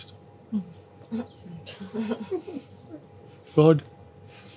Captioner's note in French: rires